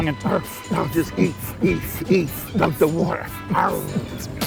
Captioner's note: beatboxing